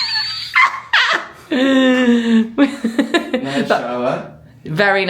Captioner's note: laughing